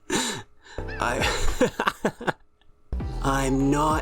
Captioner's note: laughs; breaks out laughing